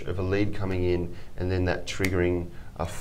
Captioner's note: fingers snapping